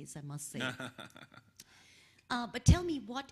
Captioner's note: laughing